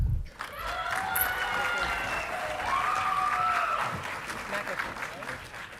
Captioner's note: audience clapping and cheering